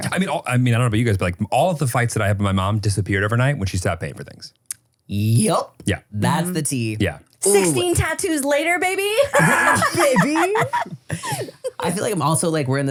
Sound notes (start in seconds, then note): 9.2 laugh